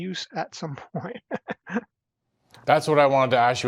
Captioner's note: laughs